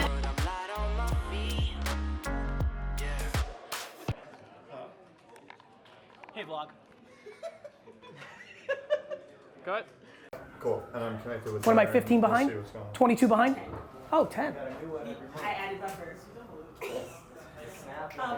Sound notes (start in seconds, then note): 0.0 relaxed hip-hop music; 7.1 laughing; 17.5 laughs